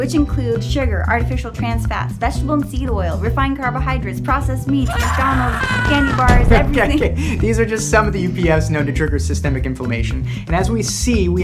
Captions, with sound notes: which include sugar, artificial trans fats, vegetable and seed oil, refined carbohydrates, processed meats, McDonald's, (emoji screaming) candy bars, everything. - Okay, these are just some of the UPFs known to trigger systemic inflammation, and as we see,